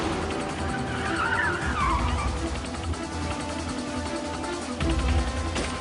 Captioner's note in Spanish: Chillido de neumáticos